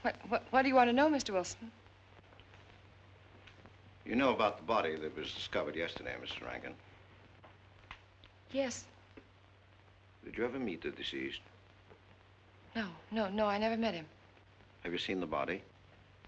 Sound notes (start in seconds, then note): none